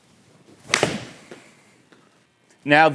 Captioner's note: ball cracking